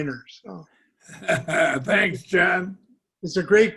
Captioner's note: laughter